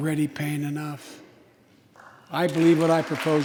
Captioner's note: applause